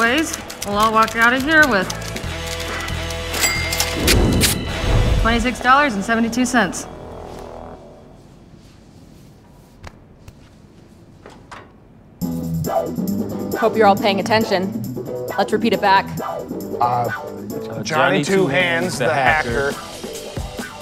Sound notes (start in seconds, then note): 1.9 keys clacking; 2.3 ka-ching; 7.4 music stops